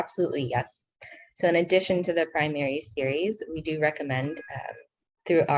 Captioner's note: speaking in foreign language